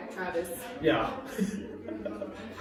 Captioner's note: embarrassed laugh